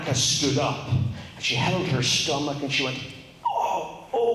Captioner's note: groans